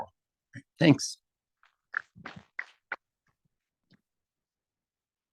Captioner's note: audience members clap